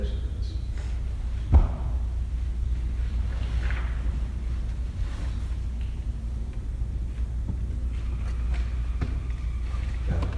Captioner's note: whispers